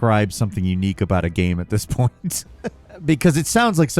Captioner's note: laughs